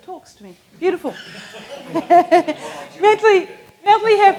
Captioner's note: laughs